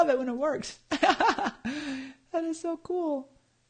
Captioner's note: laughs